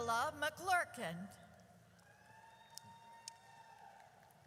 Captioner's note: audience cheers